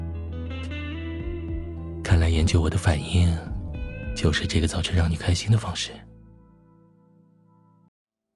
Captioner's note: whispers